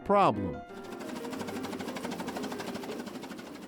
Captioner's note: steam engine